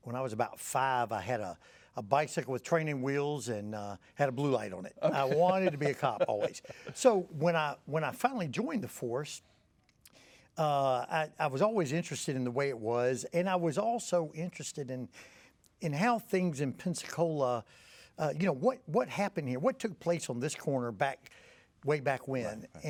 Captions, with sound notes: when I was about five, I had a bicycle with training wheels, and it had a blue light on it, (laughing) I wanted to be a cop always, so when I finally joined the force, I was always interested in the way it was, and I was also interested in how things in Pensacola... What happened here? What took place on this corner way back when?